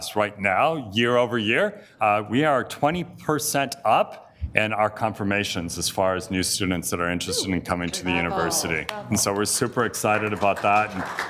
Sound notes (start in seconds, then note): 8.0 members exclaiming